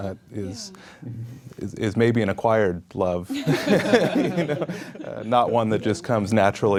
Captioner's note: people laugh quietly